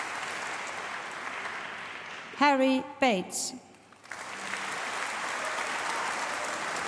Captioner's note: applause